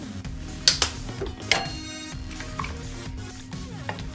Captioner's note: sound of butter top closing